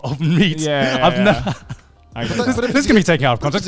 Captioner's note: laughs